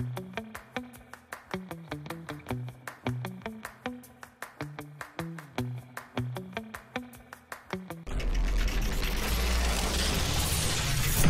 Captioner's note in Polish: Aplauz